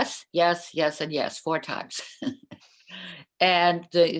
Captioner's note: laughter